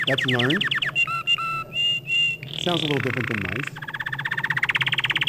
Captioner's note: birds singing